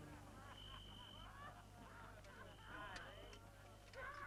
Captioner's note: guards reveling